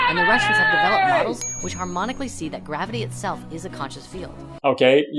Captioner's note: ding!